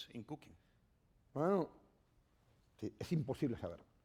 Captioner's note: speaking spanish